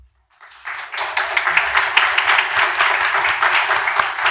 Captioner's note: applause